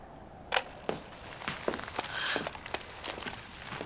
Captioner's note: recorder clicks; gasping